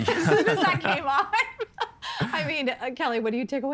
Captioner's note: laughing